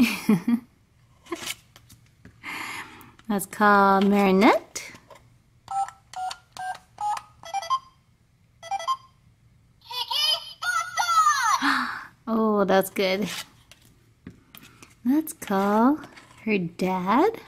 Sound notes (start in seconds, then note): 0.1 voiceover laughs; 3.6 voiceover; 5.9 beeping; 12.0 voiceover